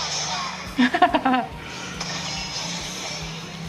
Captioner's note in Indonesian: tertawa